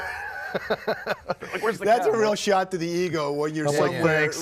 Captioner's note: laugh